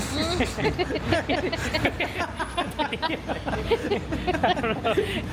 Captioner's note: laughs